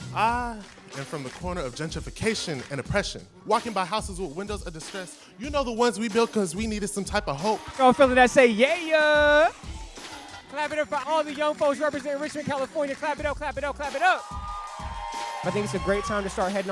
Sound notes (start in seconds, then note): 8.9 crowd; 13.6 crowd cheers